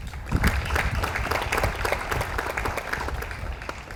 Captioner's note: audience applauds